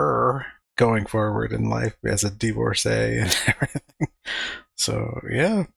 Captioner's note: chuckling